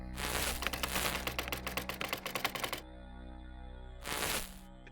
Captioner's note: static crackling; keys clicking; static crackling